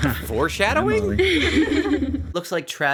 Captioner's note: girls laughing